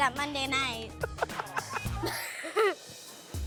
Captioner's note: laughter